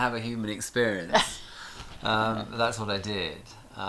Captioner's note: chuckles